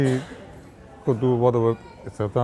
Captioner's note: coughs